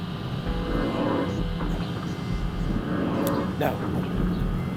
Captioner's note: faint alarm sound